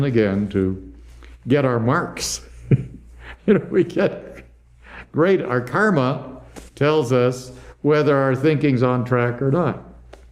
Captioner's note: laughs